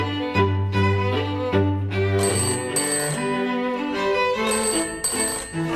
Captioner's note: phone rings